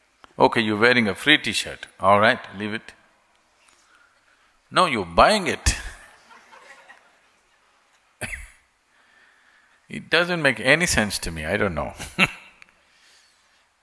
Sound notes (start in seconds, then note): 5.9 laughter; 13.1 laughs